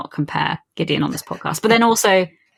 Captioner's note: laughs